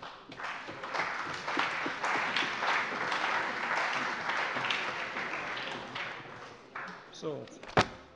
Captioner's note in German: Allgemeiner Beifall